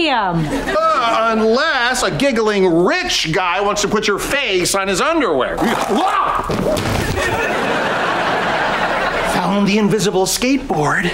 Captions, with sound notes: Unless a giggling rich guy wants to put your face on his underwear. Whoa! [thudding] Found the invisible skateboard.